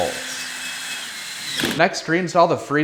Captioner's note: drill whirring